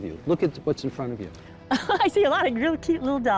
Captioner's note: laughs